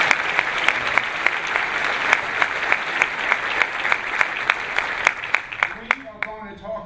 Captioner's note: clapping